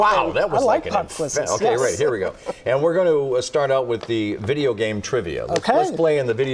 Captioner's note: laughter